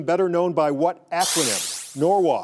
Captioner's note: electronic buzzer sounds